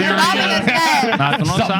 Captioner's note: speaking In Foreign Language